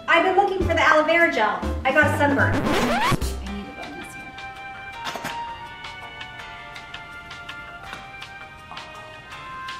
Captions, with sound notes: I've been looking for the Aloe Vera gel. I got sunburt. (record scratching) (hold music)